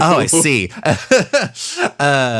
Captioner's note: laughs